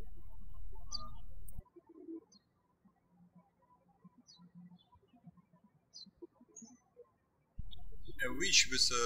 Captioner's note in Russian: птички щебечут